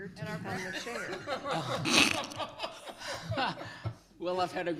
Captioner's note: people laughing